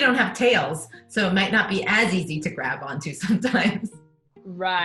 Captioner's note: laughs